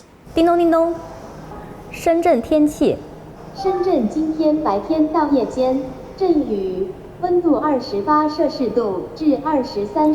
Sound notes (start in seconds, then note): 0.3 speaks foreign language; 3.6 device speaks foreign language